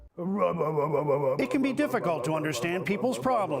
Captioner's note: odd mouth sounds